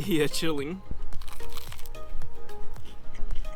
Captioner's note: crunch crunch